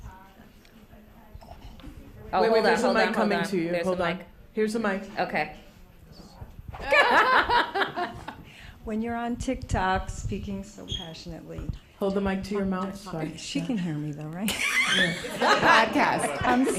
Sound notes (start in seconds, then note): 6.8 laughter